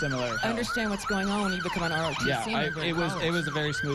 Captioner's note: sirens